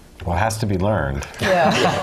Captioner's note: laugh